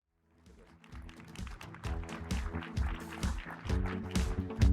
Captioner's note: audience applauding; upbeat music